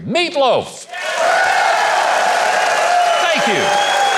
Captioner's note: crowd cheering